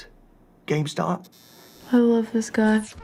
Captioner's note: electric buzz